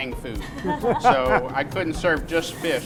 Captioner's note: laughs